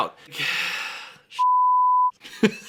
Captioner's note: sighs